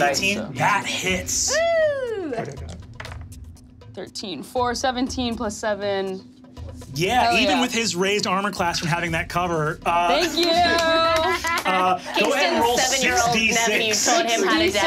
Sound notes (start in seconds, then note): 2.5 dice rattling